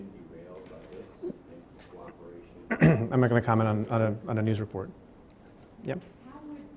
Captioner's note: clears throat